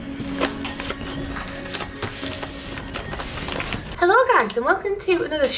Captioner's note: paper sliding; paper folding